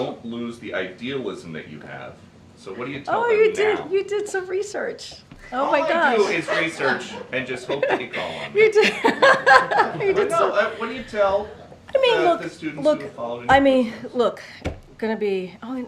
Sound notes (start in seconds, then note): 6.1 laughter; 9.1 laughs